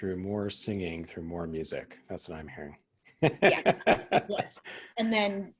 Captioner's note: laughing